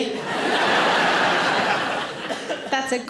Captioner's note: audience laughing